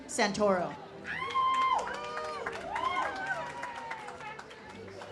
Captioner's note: audience cheers